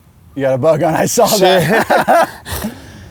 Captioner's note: laughs